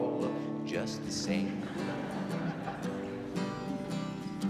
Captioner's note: crowd laughing